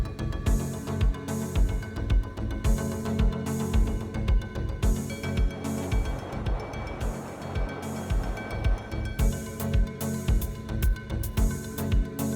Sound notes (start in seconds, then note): 5.2 washing machine noise fades in, then out again as music continues